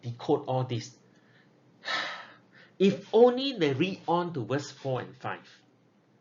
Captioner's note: sigh